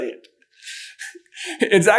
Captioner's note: giggles